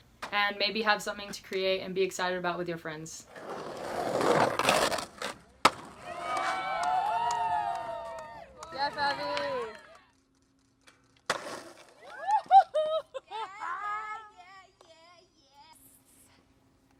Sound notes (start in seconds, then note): 3.2 skateboard rolling; 6.0 cheering; 12.0 cheering